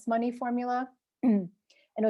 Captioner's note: clears throat